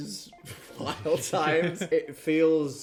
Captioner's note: chuckling